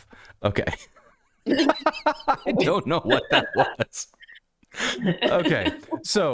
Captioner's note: laughter